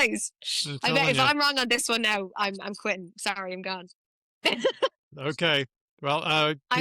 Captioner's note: laughs